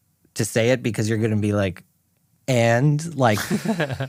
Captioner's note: laughs